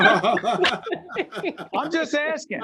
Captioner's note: laughing